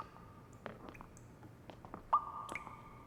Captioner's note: none